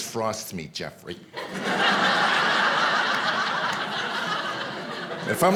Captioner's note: audience laughing